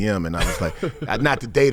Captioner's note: laughing